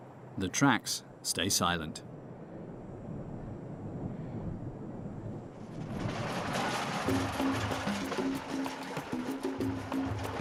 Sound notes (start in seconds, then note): 5.8 device tires sound